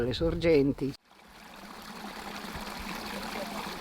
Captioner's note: stream murmuring